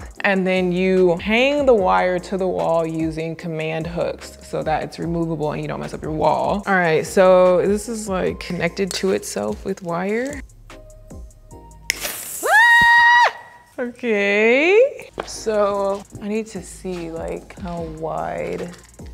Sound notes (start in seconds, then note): 12.4 screaming